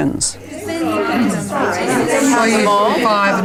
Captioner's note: participant chatter